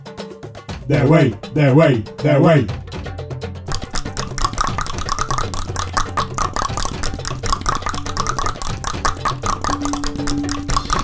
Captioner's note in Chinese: 大量彈舌